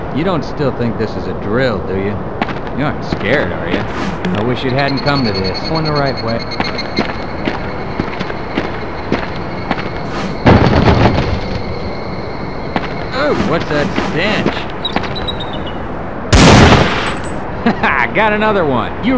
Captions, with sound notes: You Dont still think this is a drill, Do You? You're Not scared, are ya? I Wish you had'nt come to this On The Right Way- *Wood Breaking* Eugh! whats that stinch *Desert Eagle Shot!* Ha Ha! Got Another One.